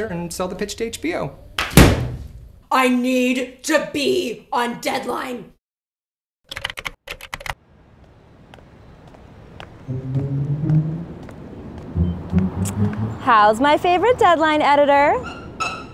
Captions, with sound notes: and sell the pitch to HBO. [computer slams] I need to be on Deadline! [typing] How's my favorite Deadline editor?